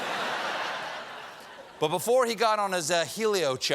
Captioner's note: laughter